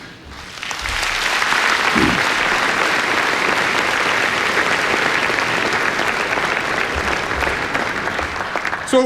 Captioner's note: applause